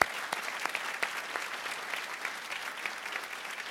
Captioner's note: applause